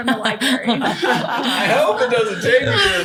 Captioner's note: laughter